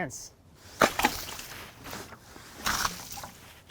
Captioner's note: splashing